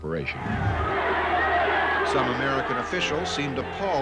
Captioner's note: a loud din from crowd